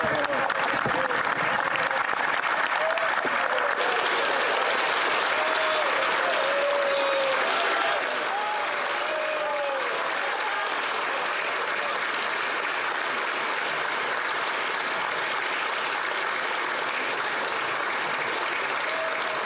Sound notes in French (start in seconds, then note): 8.3 applaudissements